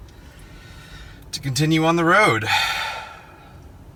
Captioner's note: sigh